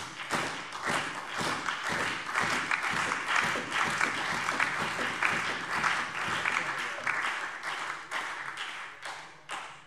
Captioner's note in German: Beifall Freie Demokraten, SPD und DIE LINKE